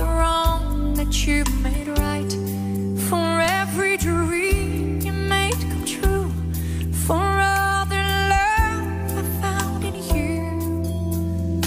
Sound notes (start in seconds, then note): none